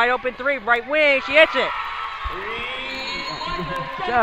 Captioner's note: crowd cheers